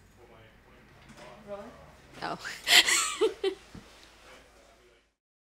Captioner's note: laughs